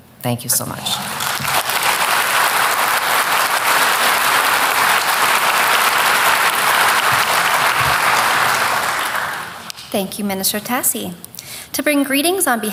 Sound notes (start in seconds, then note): 0.9 applause